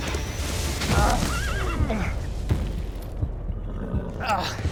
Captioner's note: groan, horse whinnies